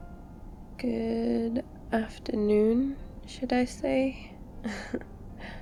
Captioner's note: laughs